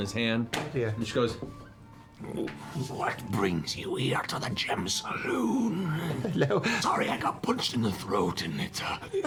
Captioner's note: Clarota voice